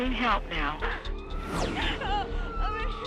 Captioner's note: sirens wailing